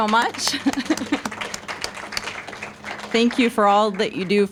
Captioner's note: applause